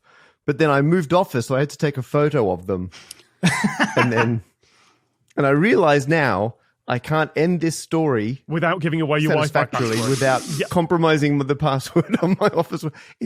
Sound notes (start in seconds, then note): 3.4 laughs